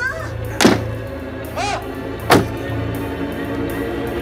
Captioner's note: Grunts